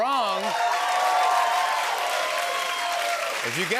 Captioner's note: cheers and applause